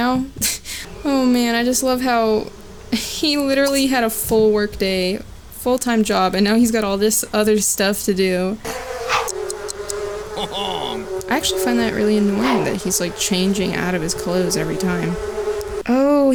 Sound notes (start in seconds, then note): 8.6 swift wooshing sound from sim's clothing change; 15.1 bees buzzing